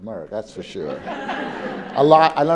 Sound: laugh

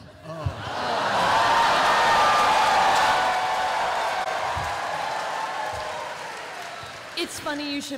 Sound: cheering

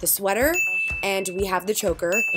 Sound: bell dings

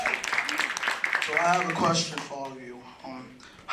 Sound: applause

